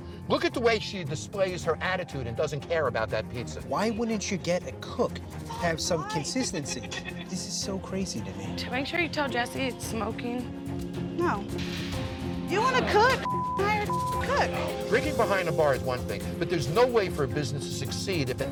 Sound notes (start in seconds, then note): 13.2 beep